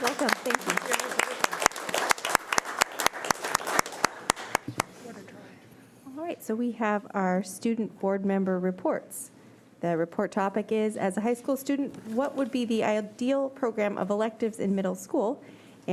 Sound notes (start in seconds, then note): 2.7 audience applauding